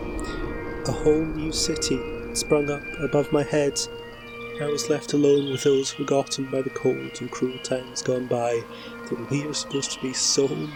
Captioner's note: fx: distant birdsong